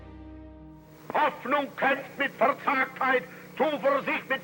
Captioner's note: speaking German